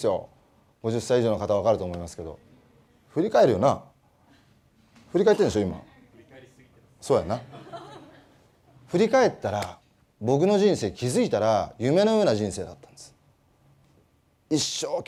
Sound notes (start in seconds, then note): 7.4 laugh